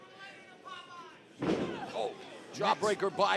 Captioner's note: crowd chatter